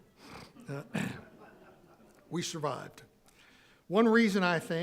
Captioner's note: audience laughing